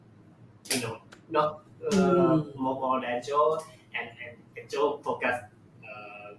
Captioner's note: in Thai